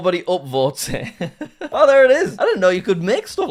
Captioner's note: laughs